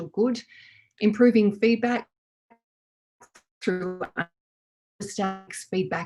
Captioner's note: faintly speaking